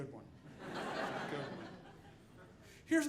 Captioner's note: audience laughing